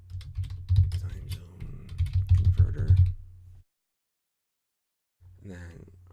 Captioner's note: typing